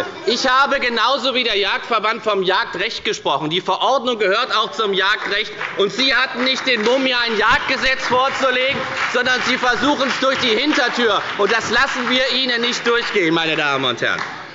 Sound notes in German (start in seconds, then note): 4.2 Beifall bei der FDP und der SPD; 13.6 Beifall bei der FDP und der SPD